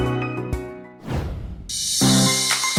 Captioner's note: air whooshing; playful upbeat music